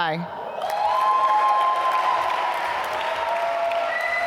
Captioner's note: applause